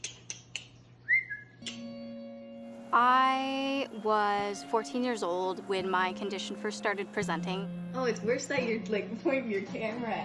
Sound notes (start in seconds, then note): 1.0 whistling; 2.4 ticking